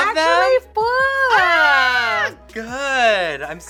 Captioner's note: both exclaim